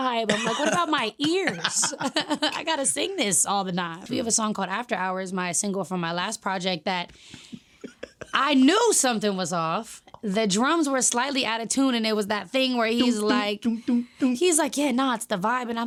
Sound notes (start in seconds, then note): 0.3 laughing; 7.8 laughing